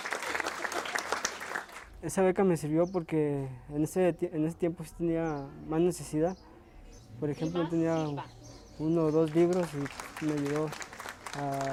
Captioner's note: foreign language spoken